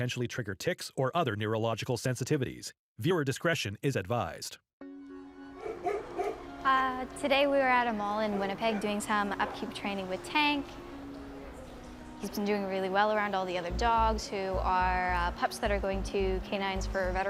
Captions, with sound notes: or auditory elements that could potentially trigger tics or other neurological sensitivities. Viewer discretion is advised. (bright music) (dog barking) - Today we are at a mall in Winnipeg doing some upkeep training with Tank. He's been doing really well around all the other dogs